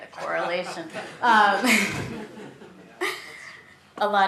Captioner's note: laughter